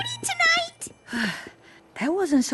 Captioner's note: sigh